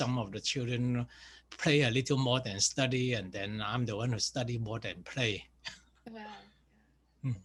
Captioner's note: laughs